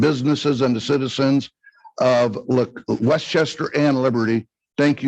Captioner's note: none